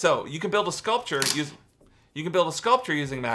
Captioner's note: magnets clack